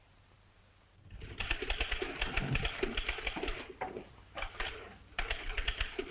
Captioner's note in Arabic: أصوات الآلات الكاتبة